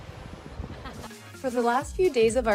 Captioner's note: laughs